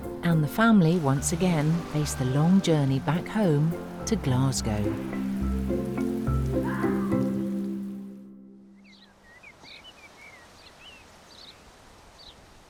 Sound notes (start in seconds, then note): 4.7 inspired music fades; 8.7 birds chirping